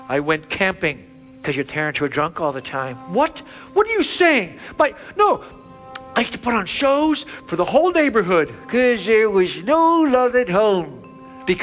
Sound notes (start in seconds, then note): none